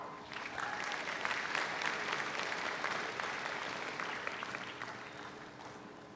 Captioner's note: audience applauds; audience cheers